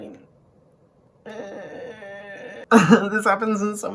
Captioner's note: groans uncomfortably